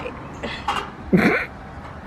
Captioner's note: snorts